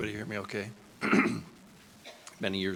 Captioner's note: clears throat